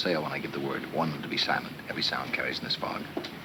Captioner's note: none